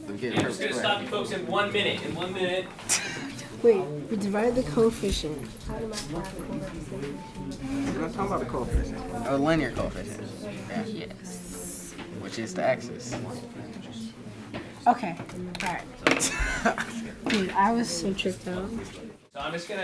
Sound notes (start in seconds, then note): 16.1 student laughs